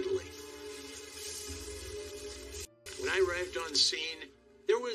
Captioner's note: hose spraraying